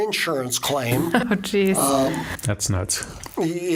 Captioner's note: laughing